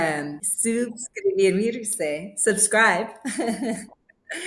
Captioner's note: laughing